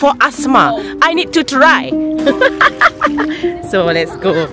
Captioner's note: laugh